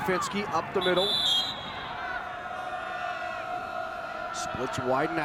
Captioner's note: whistle blows